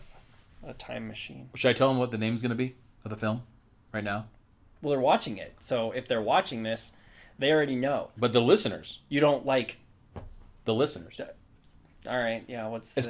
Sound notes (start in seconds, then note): none